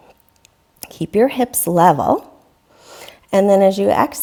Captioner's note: deeply inhaling